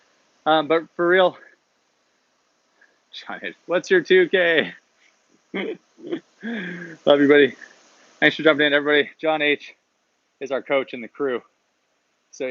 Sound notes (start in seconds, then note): 5.5 laughs; 5.5 chuckles